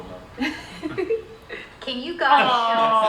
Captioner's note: laughing